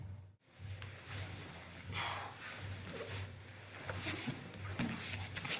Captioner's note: soft shuffling